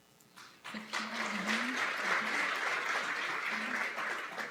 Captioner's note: applause